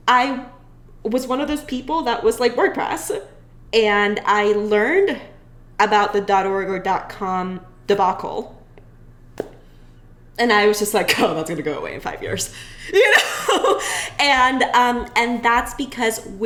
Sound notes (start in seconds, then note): 12.3 chuckles